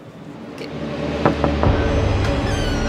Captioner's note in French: frappe a la porte